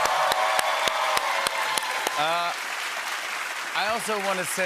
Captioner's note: cheers and applause